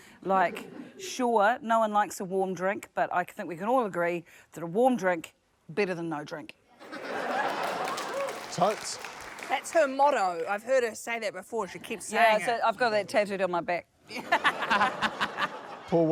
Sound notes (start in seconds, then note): 6.8 laughter, applause; 14.1 laughter